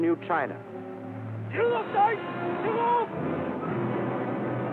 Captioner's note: shouting